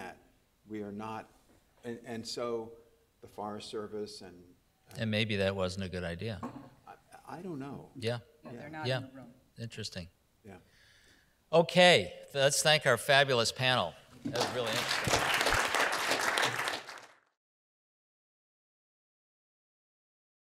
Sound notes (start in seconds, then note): 17.6 all applauding